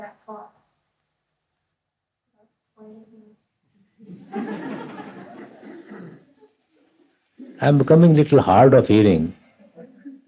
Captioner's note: laughter